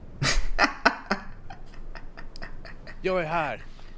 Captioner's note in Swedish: skrattar